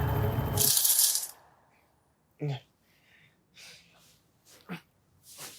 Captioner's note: blinds clattering